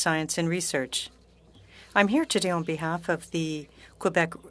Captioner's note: speaking French